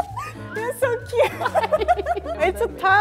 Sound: laughning; laughing

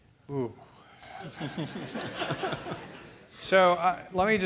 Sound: audience laughing

